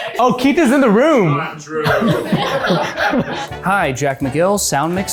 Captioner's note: people chattering loudly in the background; people chattering and laughs loudly